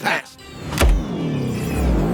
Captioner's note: button Hit